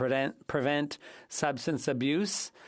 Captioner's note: speaking French